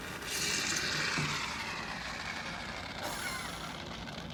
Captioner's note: beer is exploding